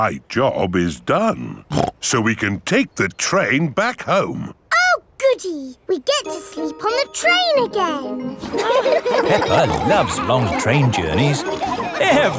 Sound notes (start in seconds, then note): 8.3 laughing